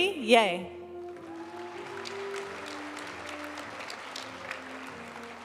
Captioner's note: audience cheering and applauding; graduation music